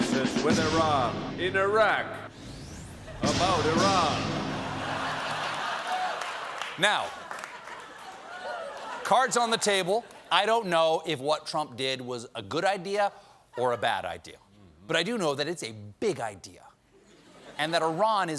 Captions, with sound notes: CRISIS WITH IRAN IN IRAQ ABOUT IRAN." ( LAUGHTER ) NOW, CARDS ON THE TABLE. I DON'T KNOW IF WHAT TRUMP DID WAS A GOOD IDEA OR A BAD IDEA BUT I DO KNOW THAT IT'S A BIG IDEA.